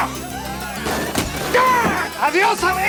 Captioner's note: preacher yelps; preacher screams